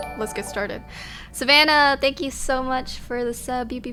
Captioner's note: notification tingling